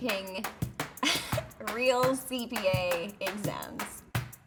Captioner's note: laughs; upbeat music